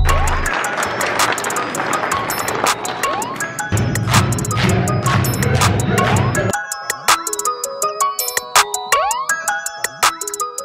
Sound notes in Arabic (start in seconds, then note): 0.1 تصفيق; 3.8 تصفيق إيقاعي; 6.6 موسيقى مبهجة